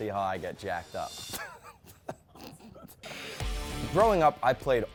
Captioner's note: laughing